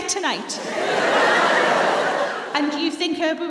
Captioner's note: laughter